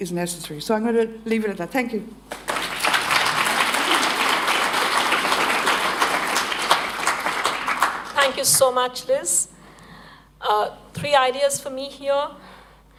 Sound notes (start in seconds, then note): 2.3 applause